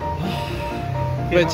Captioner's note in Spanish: suspiro